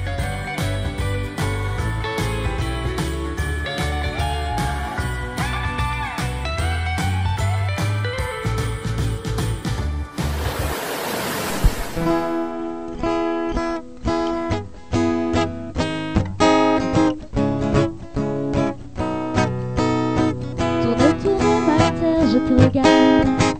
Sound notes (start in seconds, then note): 4.5 applause